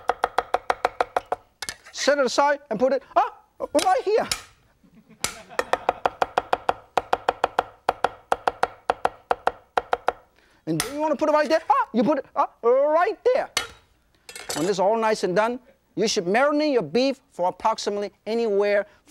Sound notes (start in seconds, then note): 4.8 audience chuckles; 5.6 knife chops